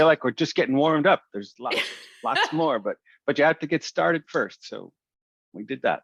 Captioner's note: yeah! < Laughter>